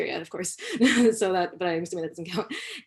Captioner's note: laughter